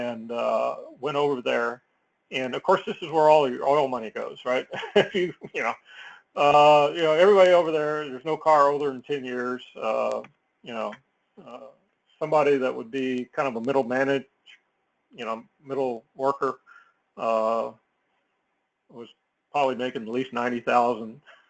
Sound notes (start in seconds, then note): 4.5 laugh